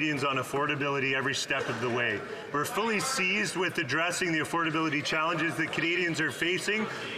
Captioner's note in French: voix de l'interprète